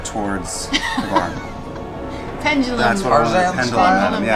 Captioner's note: laughs